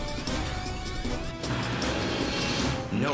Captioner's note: radar beeps